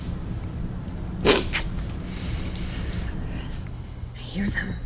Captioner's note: person sniffs